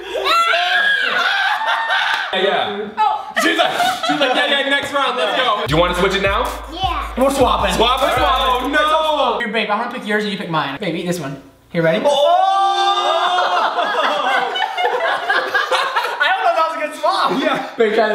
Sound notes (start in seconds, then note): 0.2 screams; 1.7 laughter; 12.1 screams and laughs